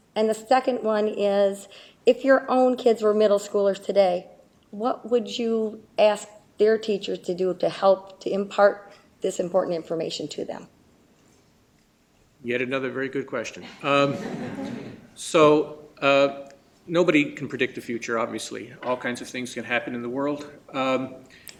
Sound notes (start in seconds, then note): 13.6 laughter